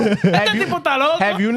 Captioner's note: laughing; speaking In Foreign Language